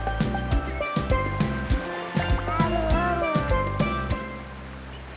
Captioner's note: water sploshing; seagulls squawking